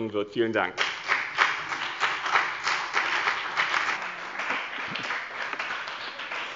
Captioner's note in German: Beifall bei dem BÜNDNIS 90/ DIE GRÜNEN und der CDU